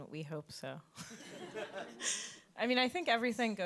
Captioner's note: audience chuckles